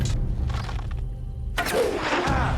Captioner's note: arrow whistles